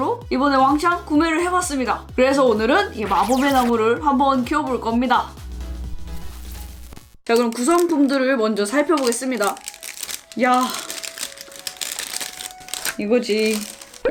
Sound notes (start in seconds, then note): 9.4 rustling